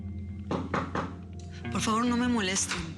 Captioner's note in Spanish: toques en la puerta